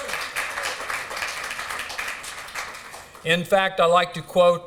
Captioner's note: applause